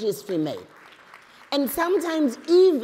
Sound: applause

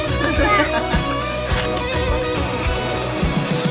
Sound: upbeat music; laughter; upbeat music

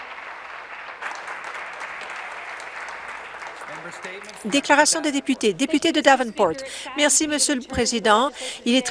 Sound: applause

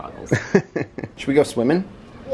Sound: laughs

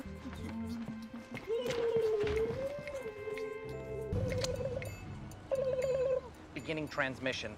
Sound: ABED makes "alien" noises

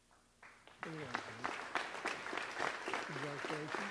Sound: audience applauds

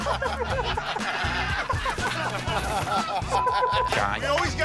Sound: laughter

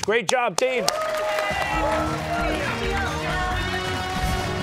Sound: cheers and applause

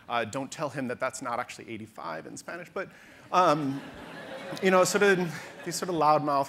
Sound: audience laughter

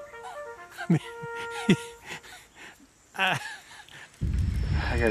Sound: laughing

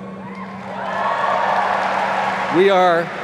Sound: applause

